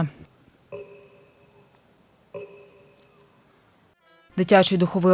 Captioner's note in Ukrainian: Звуки годинника